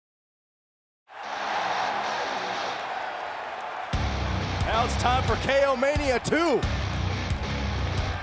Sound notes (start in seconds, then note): 1.1 audience cheering; 1.3 rock music